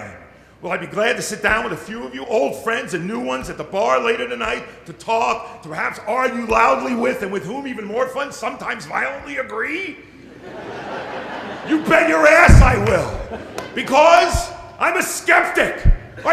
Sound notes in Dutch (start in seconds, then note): 10.2 Gelach